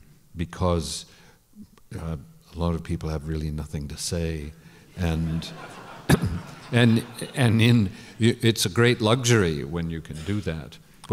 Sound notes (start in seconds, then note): 5.0 laughter